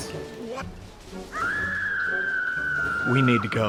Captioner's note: Sarra screaming